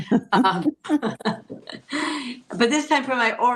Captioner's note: both laughing